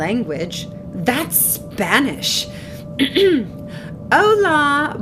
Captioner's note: ahem